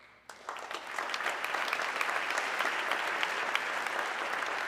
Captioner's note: audience clapping